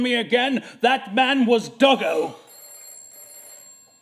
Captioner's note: telephone rings